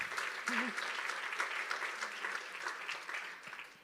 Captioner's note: applause